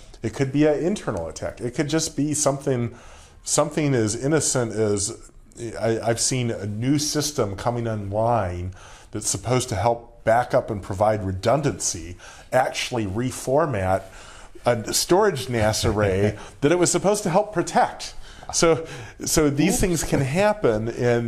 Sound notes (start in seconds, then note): 15.8 laughs